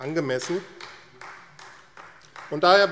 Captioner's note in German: Beifall AfD